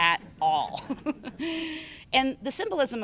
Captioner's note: laughter